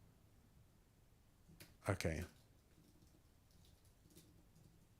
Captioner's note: silence